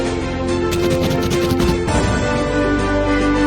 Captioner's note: inspirational music; letters scribbling; inspirational music